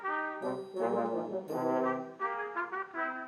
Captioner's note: none